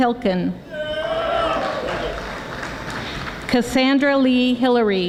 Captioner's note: audience applauding